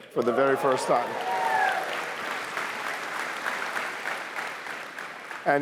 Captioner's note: cheering